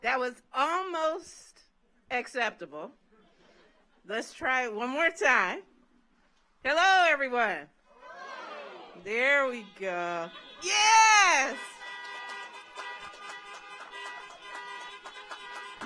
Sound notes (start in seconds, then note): 3.2 audience laughs; 10.0 car horns honking; 11.8 audience applauds